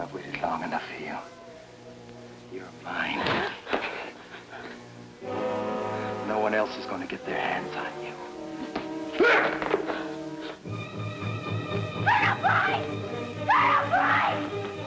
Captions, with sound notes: I've waited long enough for you. You're mine. [gasps] No one else is going to get their hands on you. [shouts] Colonel Price! Colonel Price!